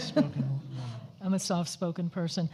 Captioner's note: overlapping chatter